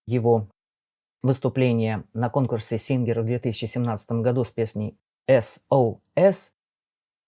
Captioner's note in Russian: на французском